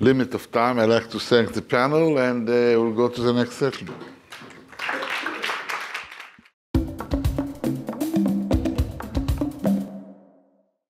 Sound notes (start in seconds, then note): 4.3 audience applauds; 6.7 upbeat drum music